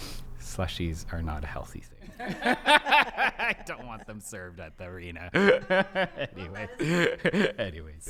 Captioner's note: laughs